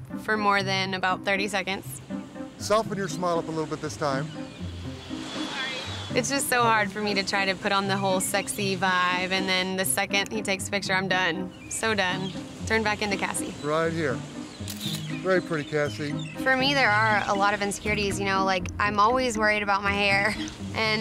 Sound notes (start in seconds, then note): 5.6 tentative music; 14.6 camera snaps